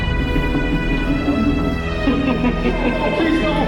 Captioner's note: izzy laughs